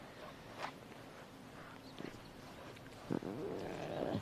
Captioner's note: cub softly growling